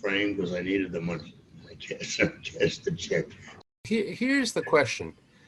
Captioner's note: chuckles